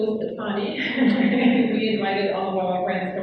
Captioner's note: laughs